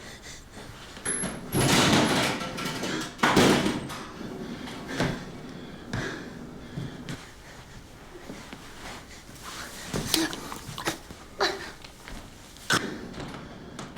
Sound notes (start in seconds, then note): 1.1 door clattering; 9.8 Charlie gagging